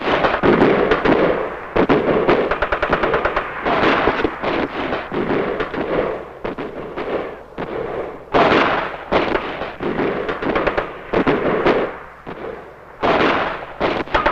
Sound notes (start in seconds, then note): 6.2 explosions booming; 6.2 guns firing